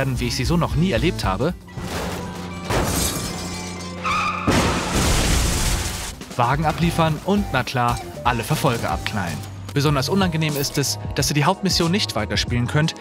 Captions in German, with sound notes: wie ich sie so noch nie erlebt habe ... (Krachen, Splittern) (Bremsenquietschen, Krachen) ... Wagen abliefern und - na klar - alle Verfolger abknallen. Unangenehm ist es, dass ihr die Hauptmission nicht weiterspielen könnt,